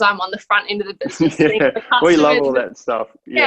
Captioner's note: laughing